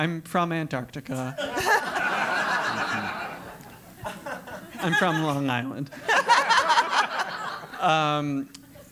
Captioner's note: laugh; laugh